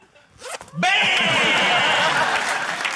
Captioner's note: zip whizzes; applause